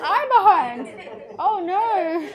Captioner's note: children giggle